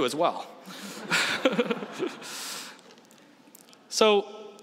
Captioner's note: laughs